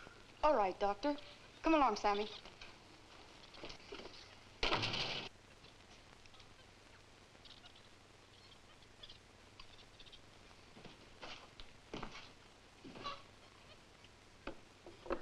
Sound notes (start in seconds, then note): 4.6 door thuds